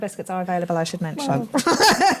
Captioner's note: laughing